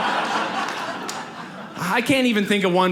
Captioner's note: audience laughs